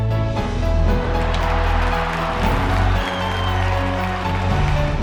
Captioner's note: audience applauding